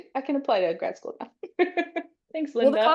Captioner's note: laughs